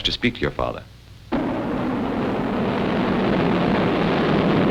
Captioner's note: plane rumbling